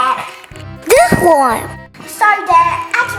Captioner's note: magical ting